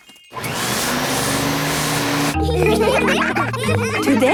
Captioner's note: whirring; all laughing